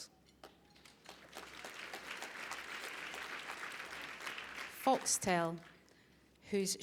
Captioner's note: applause